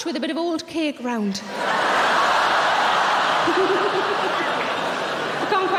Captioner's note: audience laughing